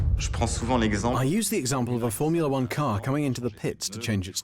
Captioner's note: voiceover